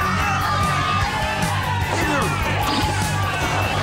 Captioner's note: spectators boo